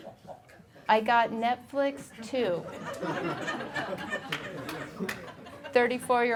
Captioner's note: audience laughing